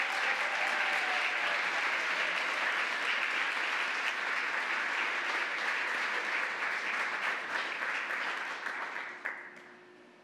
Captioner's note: applause